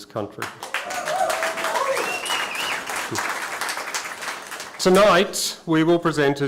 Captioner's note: applause